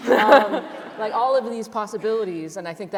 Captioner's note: laughter